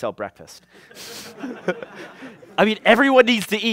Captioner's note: laughter